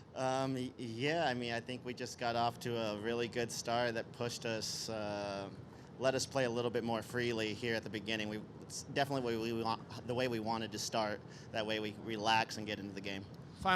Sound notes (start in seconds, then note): none